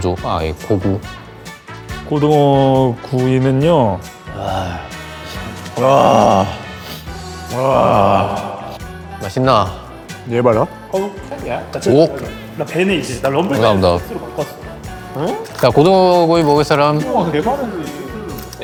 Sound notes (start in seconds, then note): 4.1 haaahhh; 5.8 huuuhhh; 6.3 haaahhhhhhh; 6.8 sniffle